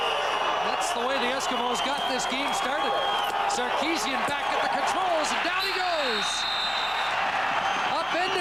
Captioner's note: cheers/Applause